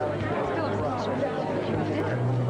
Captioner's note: crowd noise